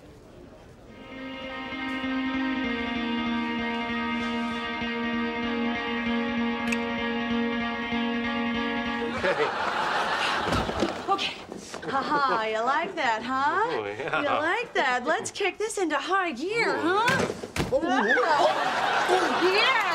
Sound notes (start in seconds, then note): 1.9 slow guitar music; 8.8 audience laughing